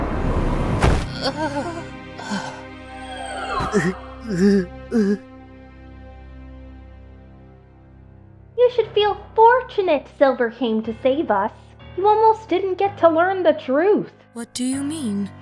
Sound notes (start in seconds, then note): 0.8 thud